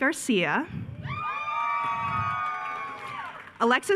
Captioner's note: attendees cheering